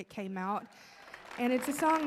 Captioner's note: audience applauding